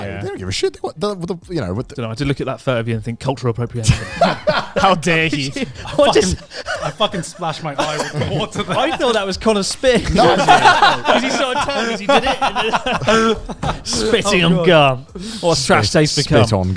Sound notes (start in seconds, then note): 4.3 laughing loudly